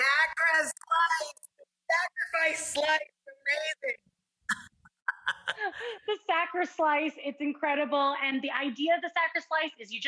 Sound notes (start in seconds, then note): 5.0 both laughing